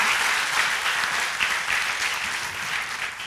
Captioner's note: applause